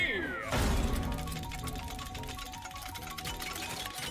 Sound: wheel slams down and chimes

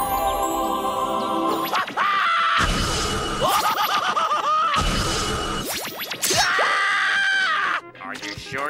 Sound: screaming

